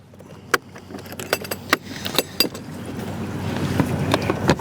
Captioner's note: clips clanging; camera clattering